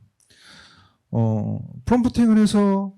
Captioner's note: speaking korean